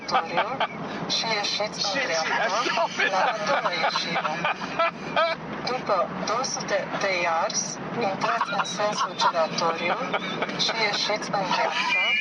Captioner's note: laughter; laughter